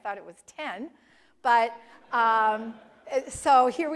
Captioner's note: laugh